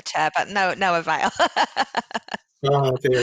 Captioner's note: laughing